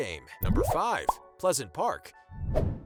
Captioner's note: popping